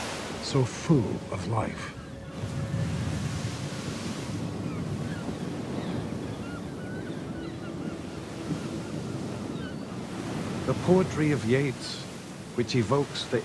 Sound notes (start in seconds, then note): 3.7 seagulls squawking